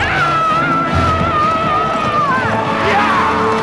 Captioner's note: woman roaring